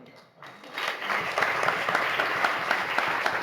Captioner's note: applause